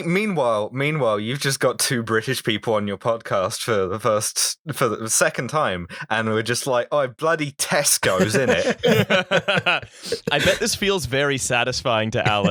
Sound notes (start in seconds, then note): 7.1 cockney voice; 8.0 laughter